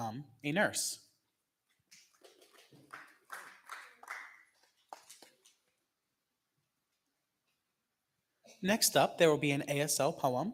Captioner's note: clapping